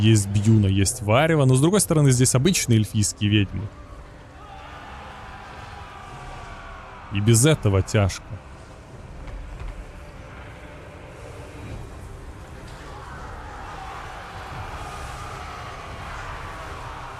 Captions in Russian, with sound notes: Есть Бьюна, есть Варива. Но с другой стороны здесь обычные эльфийские ведьмы. [крик] И без этого тяжко.